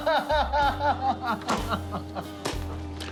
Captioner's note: laughing; slow clap